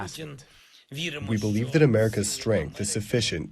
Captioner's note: through translator